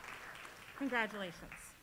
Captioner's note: applause